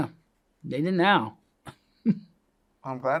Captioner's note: laughs